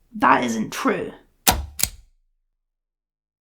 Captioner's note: click